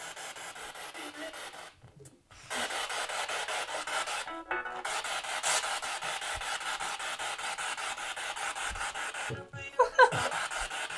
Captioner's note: sound of the Spirit Box in the background